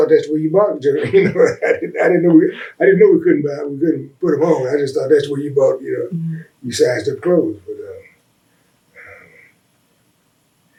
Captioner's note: laughs